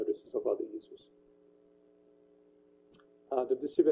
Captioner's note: pause